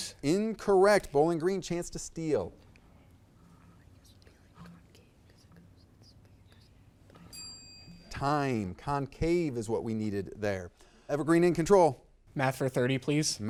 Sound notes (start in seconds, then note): 3.3 contestants murmuring; 7.2 bell ringing